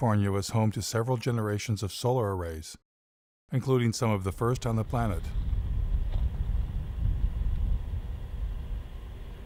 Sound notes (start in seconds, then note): 6.1 loud machinery